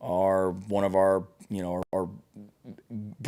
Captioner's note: stutters